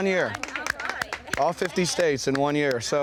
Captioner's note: group applauding